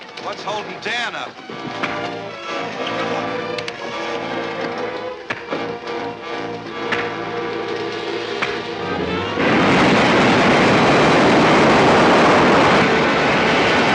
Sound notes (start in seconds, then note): 1.7 tense music; 8.6 well roaring